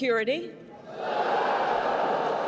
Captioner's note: crowd boos